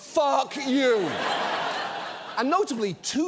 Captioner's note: studio audience laughs